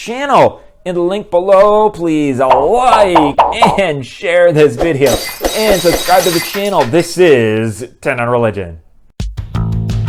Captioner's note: glass breaking